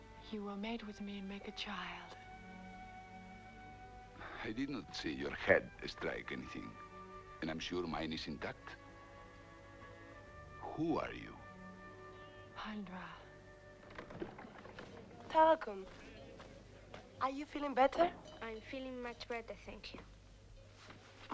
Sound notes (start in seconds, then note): 13.8 door opens